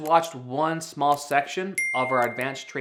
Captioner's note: bell dinging